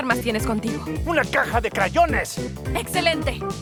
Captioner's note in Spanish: Sarcásticamente